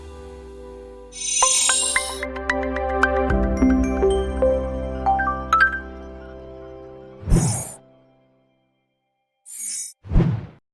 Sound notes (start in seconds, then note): 0.8 bright music; 7.3 air whooshes